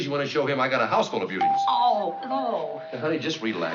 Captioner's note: doorbell rings